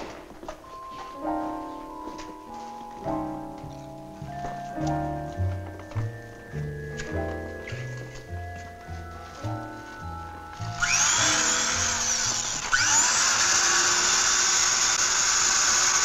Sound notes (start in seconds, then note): 0.3 slow, tense music; 10.6 drill whirring